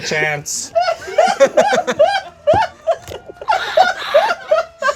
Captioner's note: group laughs